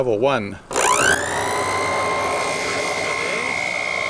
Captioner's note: motor whining